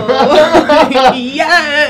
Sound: happy laughs

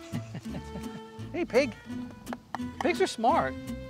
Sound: chuckling; hand smacking

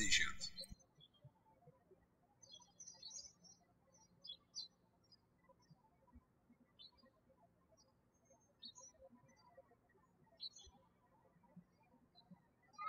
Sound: birds chirping

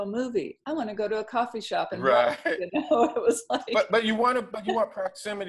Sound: laughs

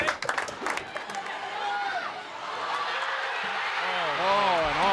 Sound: team applauds; crowd cheers

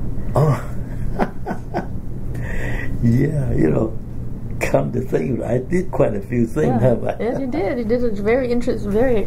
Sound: laughs

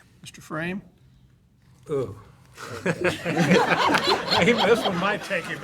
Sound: laughter

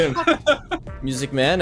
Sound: laughter

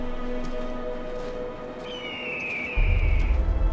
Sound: hawk screech

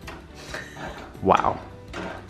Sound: laughing

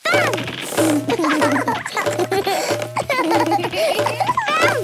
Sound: both laugh

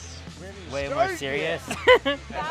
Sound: laughter

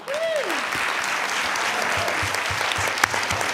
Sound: cheering

